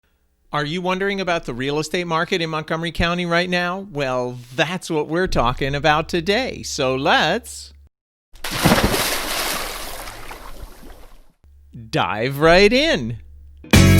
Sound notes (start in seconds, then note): 8.4 swimmer splashes